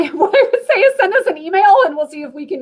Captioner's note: laughter